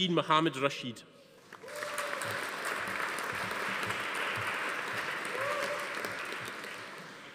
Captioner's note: audience applauding; attendee cheering